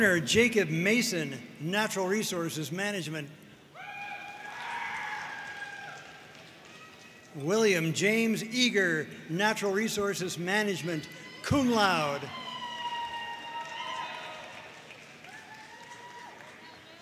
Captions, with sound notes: Turner Jacob Mason, Natural Resources Management. (audience cheering and applauding) William James Eager, Natural Resources Management, Cum laude. (audience cheering and applauding)